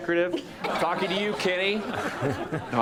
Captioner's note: all laughing